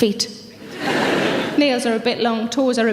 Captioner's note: audience laughs